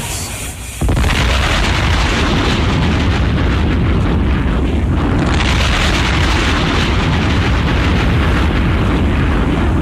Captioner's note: explosion